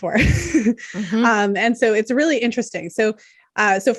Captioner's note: chuckles